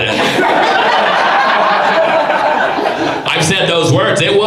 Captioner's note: audience laughs